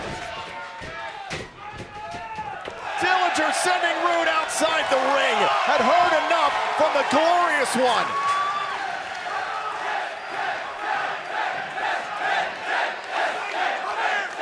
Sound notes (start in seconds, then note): 2.4 crowd cheering; 10.3 crowd chatter